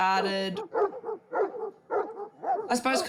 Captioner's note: dogs bark